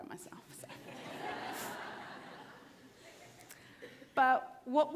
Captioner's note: audience laughter